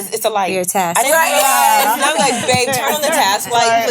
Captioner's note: ladies laughing